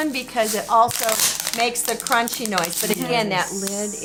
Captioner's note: crunches bottle